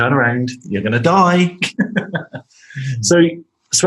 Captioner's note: laughing